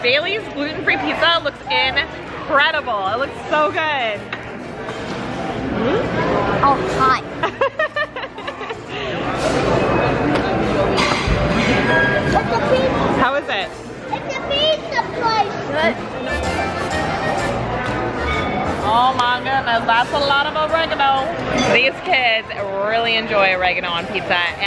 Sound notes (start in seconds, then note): 7.4 laughing